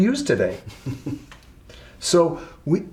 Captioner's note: braga chuckles